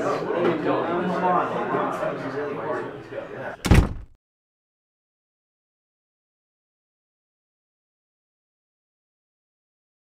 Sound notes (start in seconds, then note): 0.0 SFX: people talking; 3.6 SFX: door slam